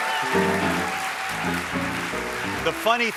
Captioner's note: cheers and applause